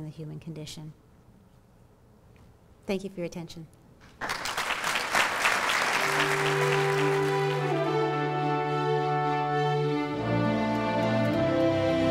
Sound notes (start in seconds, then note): 4.1 applause